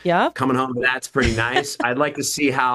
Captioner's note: host laughs